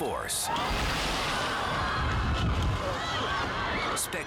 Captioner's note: crowd screaming; surfer crashing